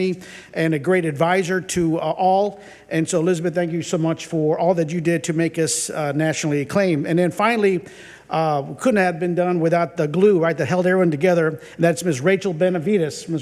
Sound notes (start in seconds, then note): none